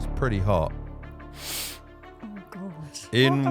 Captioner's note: sniffing